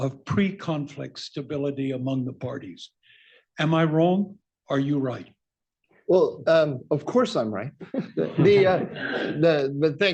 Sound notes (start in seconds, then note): 7.8 laughter